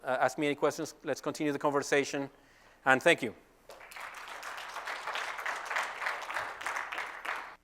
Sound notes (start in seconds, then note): 3.6 applause